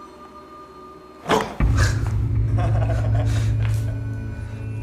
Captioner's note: laughs